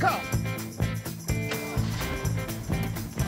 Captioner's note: starts truck